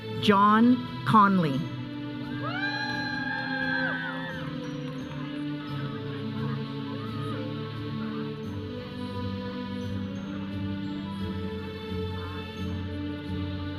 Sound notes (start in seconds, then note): 2.4 audience cheering; 4.6 audience chattering; 5.5 processional music